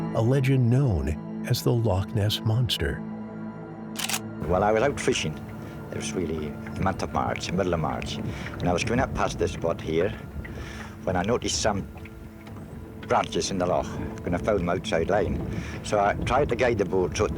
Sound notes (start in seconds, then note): 3.9 camera clicking